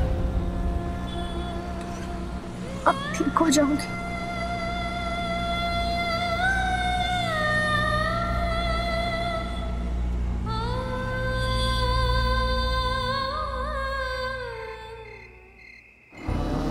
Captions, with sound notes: You will be alright! [somber music plays] [crickets chirping]